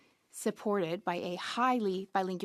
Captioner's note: speaking French